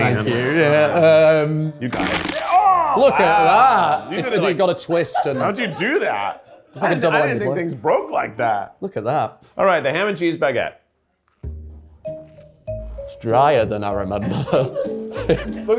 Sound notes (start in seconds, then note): 1.9 bread crunches; 11.4 gentle playful music; 14.2 chuckles